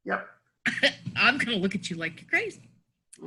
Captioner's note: coughs